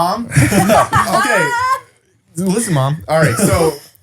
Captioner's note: laughs